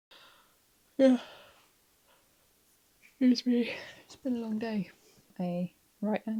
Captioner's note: yawn